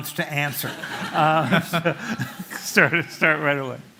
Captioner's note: laughter